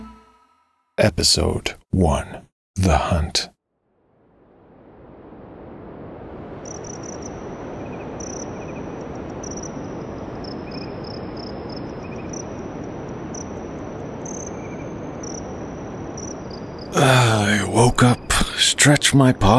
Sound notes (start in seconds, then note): 3.8 ambient sound, wind in the steppe, crickets chirping, early morning